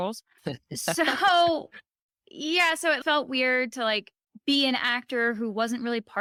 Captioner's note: chuckling